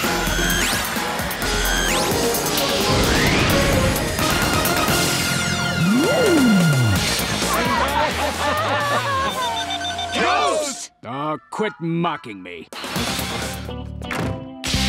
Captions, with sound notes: [laughing] [beeping] Ghost! Oh, quit mocking me.